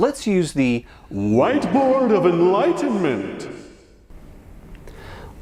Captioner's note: exaggerated and echoed voice